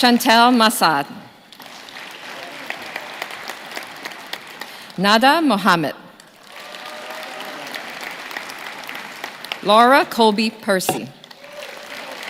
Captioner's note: names being called